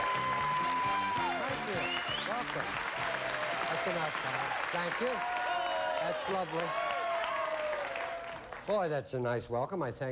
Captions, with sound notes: THANK YOU. WELCOME. THAT'S ENOUGH, NOW. THANK YOU. THAT'S LOVELY. [AUDIENCE CHEERING] BOY, THAT'S A NICE WELCOME. I THANK YOU.